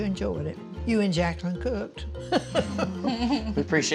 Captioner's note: laughing